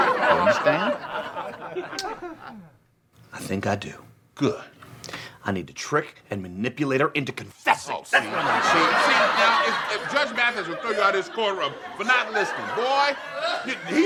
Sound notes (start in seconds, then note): 8.1 audience laughs